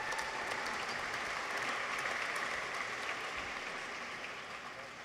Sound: audience applauds

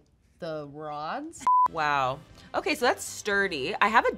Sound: TV beeps

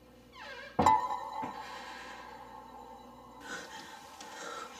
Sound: door creaking; clanking sound; breathing heavily

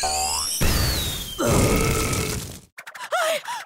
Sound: belching

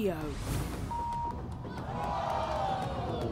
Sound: beeping; audience gasping

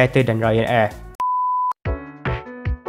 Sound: beep

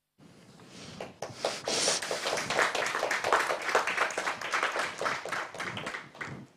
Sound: applause

